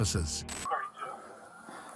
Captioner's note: radio chatter